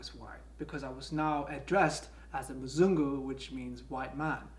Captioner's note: foreign language